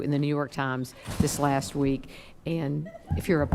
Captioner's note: door closes; attendee giggling